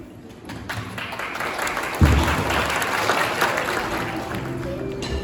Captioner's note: applause